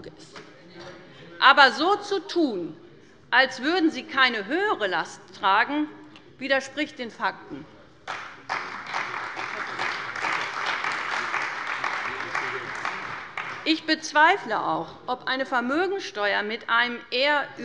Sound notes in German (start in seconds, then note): 8.0 Beifall bei der CDU